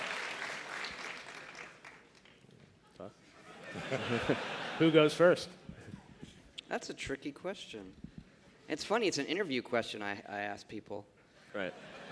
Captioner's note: applause